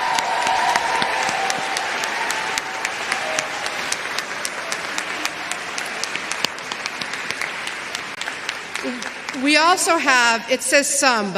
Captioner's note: applause